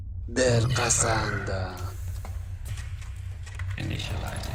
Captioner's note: suspenseful music; mechanical movements